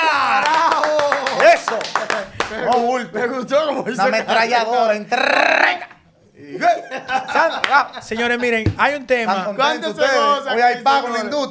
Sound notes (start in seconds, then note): 1.9 applause